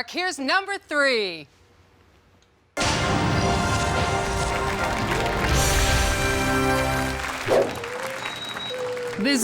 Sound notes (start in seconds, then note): 2.8 upbeat music; 5.2 audience applauds